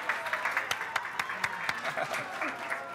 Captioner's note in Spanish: exclamaciones